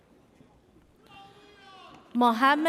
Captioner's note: person cheers